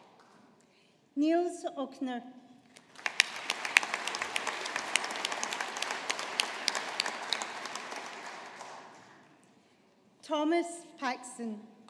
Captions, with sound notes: Nils Ochner. (AUDIENCE APPLAUDING) Thomas Paxton.